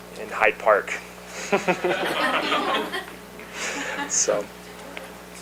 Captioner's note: laughter